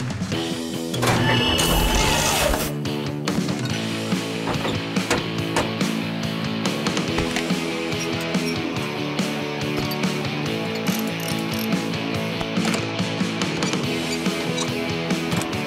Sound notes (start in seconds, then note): none